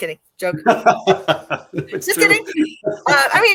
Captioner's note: laughter